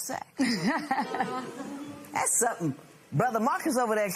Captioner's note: laughs